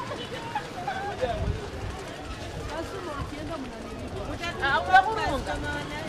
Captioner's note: residents speaking in non-English